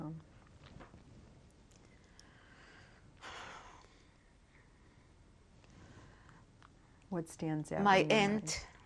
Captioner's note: pauses for 6 seconds